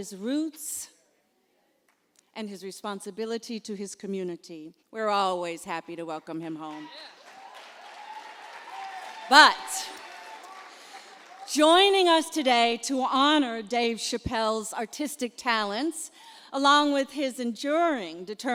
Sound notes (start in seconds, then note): 6.7 applause